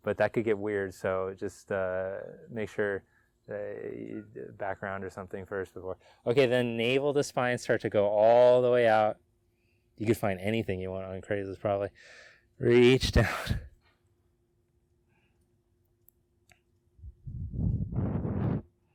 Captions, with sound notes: But that could get weird so just make sure you do background or something first before. Okay, then enable the spine. Start to go all the way out. You could find anything you want on Craigslist probably. Reach down. (laughs)